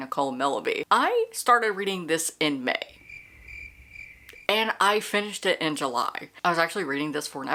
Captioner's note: crickets